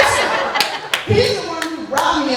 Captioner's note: laughter